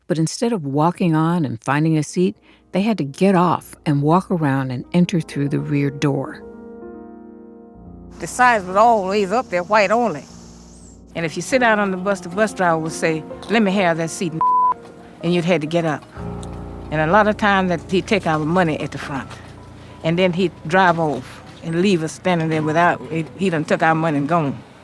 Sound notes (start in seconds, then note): 6.4 soundbite of archived recording